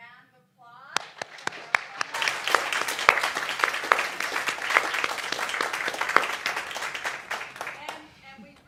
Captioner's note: applause